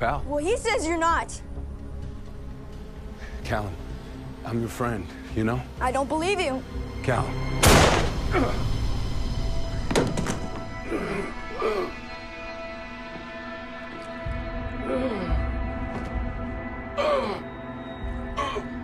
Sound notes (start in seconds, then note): 7.6 gunshot; 10.8 grunting